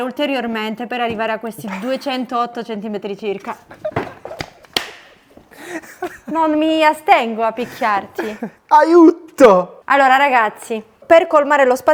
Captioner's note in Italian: risate